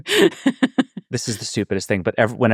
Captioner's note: laughing